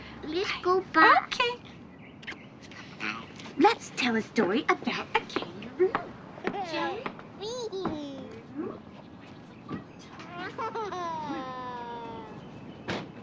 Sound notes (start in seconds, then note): 6.5 molly giggling